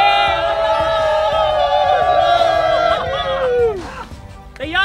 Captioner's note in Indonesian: Teriakan